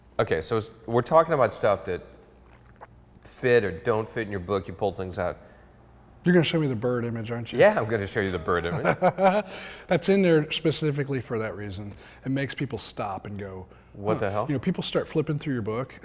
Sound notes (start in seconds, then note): 8.4 laughs